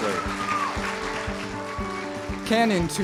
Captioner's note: cheers and applause